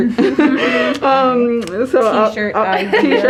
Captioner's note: laughing